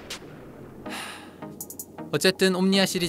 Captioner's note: sighing